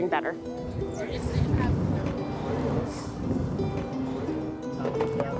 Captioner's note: people chattering